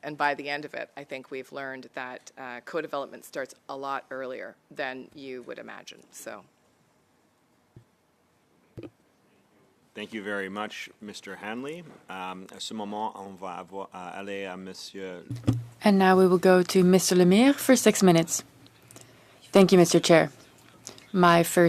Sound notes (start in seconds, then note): 18.7 speaking French